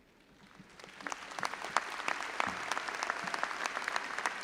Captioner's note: all applauding